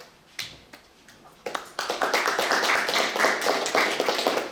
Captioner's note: applause